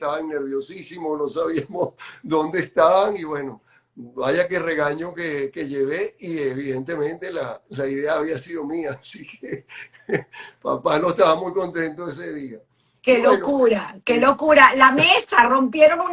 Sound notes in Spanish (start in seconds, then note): 9.1 risas